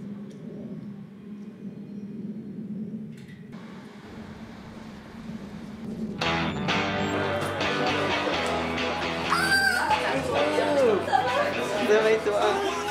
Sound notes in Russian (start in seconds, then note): 2.9 скрип калитки